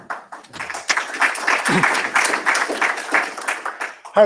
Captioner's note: applause